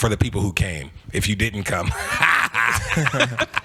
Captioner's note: laughs